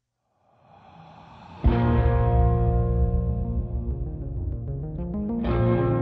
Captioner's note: heavy breath; brooding electronic music